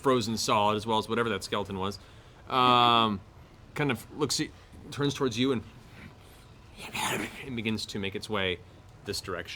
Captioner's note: snarls